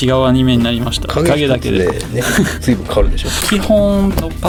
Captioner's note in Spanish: Risas